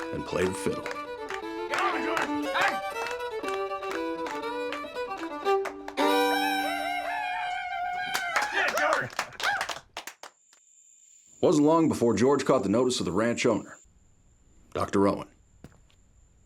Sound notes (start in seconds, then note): 3.0 playing fiddle; 6.6 cheering; 8.5 cheering, applause